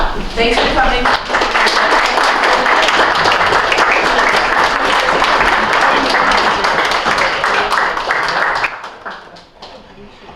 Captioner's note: applause